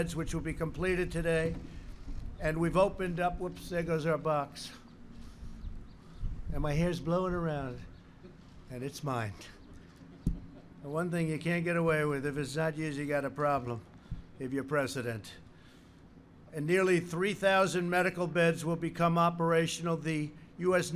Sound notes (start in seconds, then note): 10.1 laughter